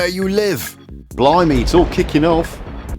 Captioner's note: thunder sounds